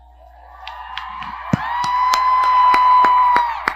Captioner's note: audience cheers